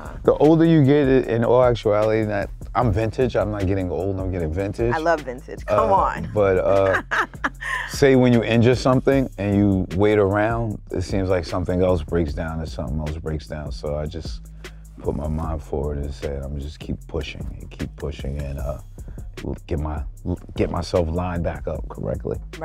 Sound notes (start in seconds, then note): 5.6 laughs